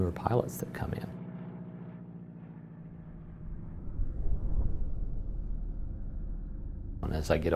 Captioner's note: background -Airplane engines